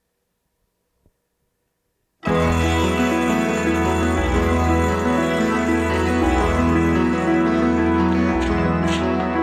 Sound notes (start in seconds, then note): 2.2 bell ringing; 2.2 calm orchestral music